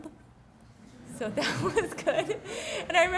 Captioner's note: laughing